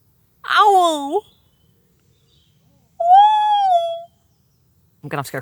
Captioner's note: owl hoot immitation